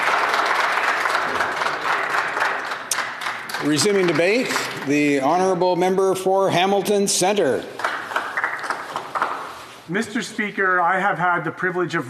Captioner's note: applause